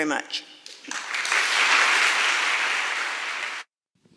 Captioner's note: clapping